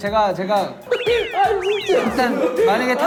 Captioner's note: Terbahak-bahak di atas meja